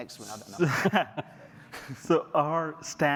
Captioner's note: laughter